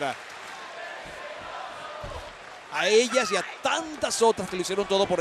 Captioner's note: applause